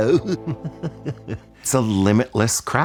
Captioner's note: laughs